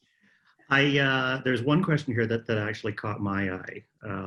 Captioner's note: laughter